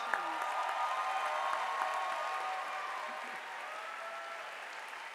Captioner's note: audience applauding